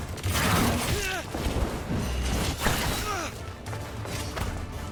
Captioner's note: characters grunting